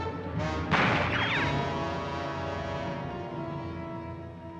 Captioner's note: dramatic music; gunshot